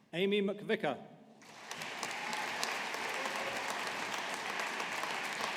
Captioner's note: audience applauding